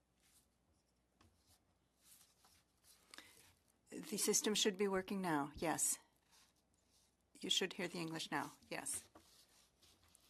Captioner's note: speaking French